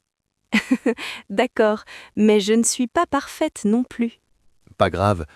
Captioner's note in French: rire